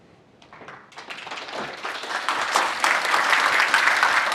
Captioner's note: audience clapping